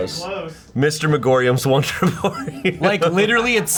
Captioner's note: laughs